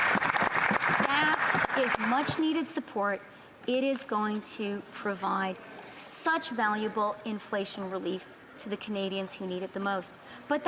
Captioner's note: applause